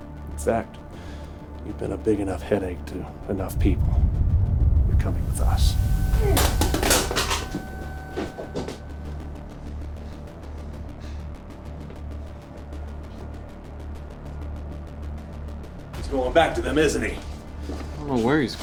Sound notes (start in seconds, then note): 0.0 tense music; 6.3 guns clattering; 6.7 tense music